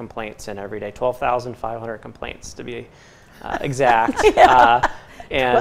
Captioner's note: laughter